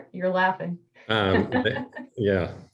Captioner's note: laughter